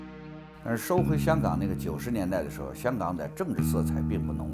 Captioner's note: speaks in Chinese